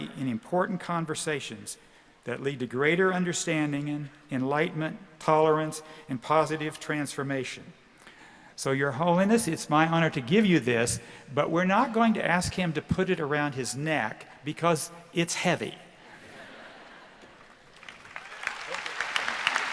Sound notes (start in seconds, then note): 17.4 applause